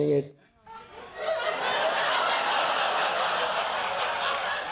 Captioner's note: laughter